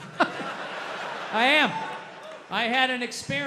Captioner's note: audience laughs